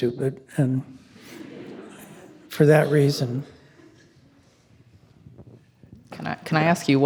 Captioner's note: attendees laughing